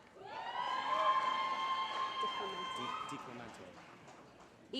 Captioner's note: applause